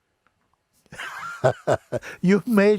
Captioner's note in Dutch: Mooji lacht